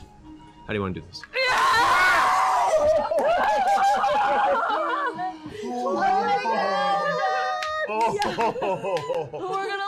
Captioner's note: cheering